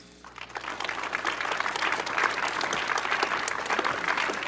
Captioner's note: audience applauding